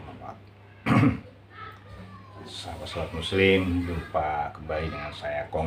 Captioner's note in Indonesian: berdehem